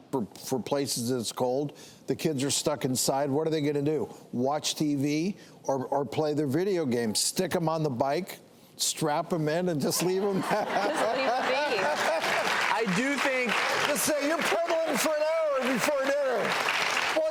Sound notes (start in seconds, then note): 9.9 audience laughs; 10.0 laughs